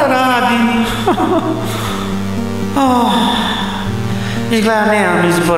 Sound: cries and groans

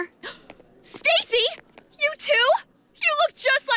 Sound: gasps

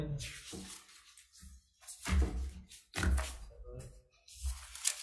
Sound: papers rustling

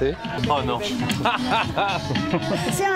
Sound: laughing

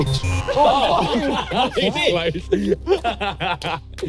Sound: everyone laughing

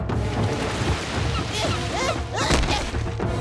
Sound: grunting

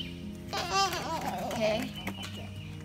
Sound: whining

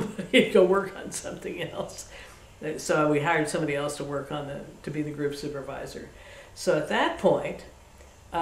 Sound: laughs

